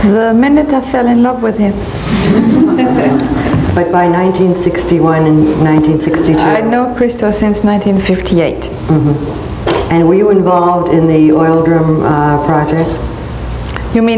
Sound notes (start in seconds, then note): 2.2 laughter